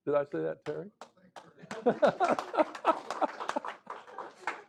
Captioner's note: applause